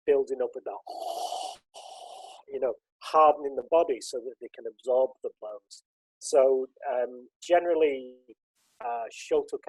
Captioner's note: loud breathing